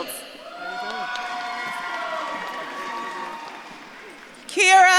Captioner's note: audience claps and cheers